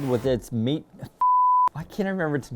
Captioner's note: beep